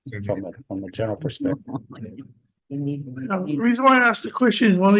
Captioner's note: attendees laughing and chattering